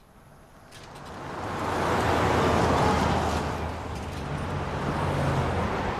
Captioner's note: engines rumbling